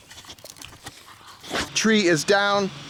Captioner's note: dog sniffing